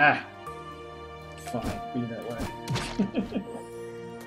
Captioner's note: laughs